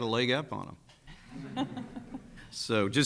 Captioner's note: people laughing